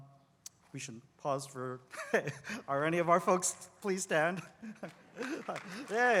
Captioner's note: laugh